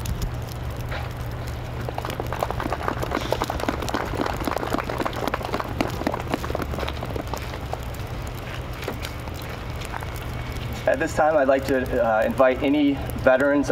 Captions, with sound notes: (muffled applause) >> At this time, I'd like to invite any veterans